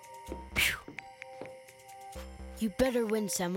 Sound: Sema exhaling loudly

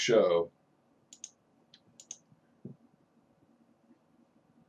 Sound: mouse clicking

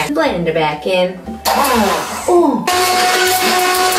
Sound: whirring

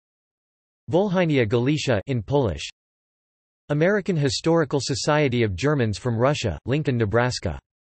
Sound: in Polish

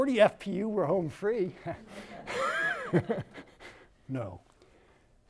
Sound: laughs

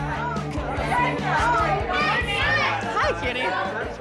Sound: upbeat music; people shouting

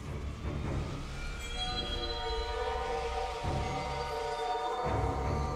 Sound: ghostly whispering

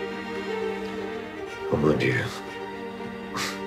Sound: speaks in French

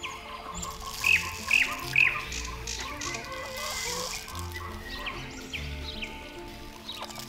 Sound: bird seed sprinkles against plastic

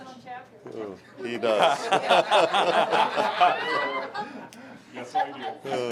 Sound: group laughing

